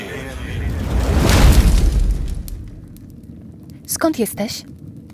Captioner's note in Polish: dźwięk palących się drew